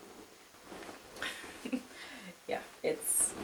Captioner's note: jumpsuit rustles; chuckles